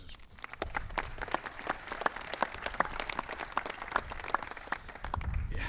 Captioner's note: applause